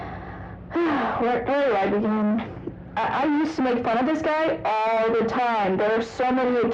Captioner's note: sigh